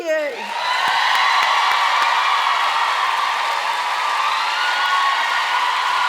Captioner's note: audience cheering and applauding